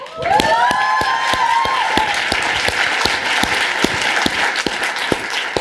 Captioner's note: applause